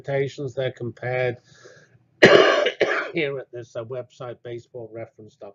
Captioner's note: cough